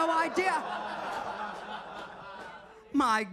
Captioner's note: audience laughing